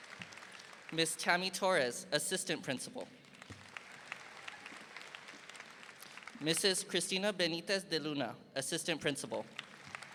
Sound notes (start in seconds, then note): 3.2 audience applauding; 9.5 audience applauding